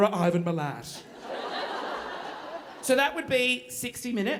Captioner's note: audience laughing